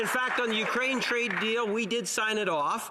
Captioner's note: applause